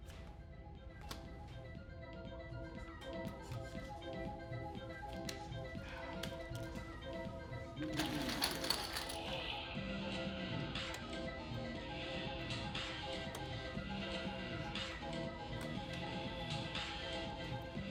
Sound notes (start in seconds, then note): none